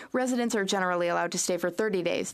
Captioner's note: speaking French